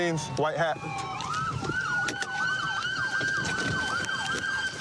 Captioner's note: siren wailing